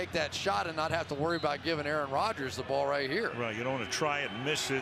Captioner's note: cheering